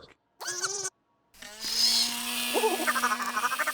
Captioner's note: whirring; chattering